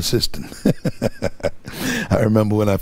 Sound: laughing

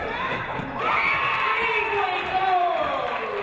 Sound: audience cheering

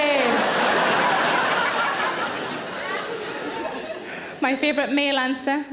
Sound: audience laughs

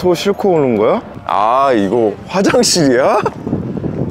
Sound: laughing

